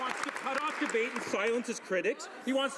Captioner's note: applause